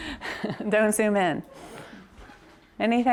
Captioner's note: laughs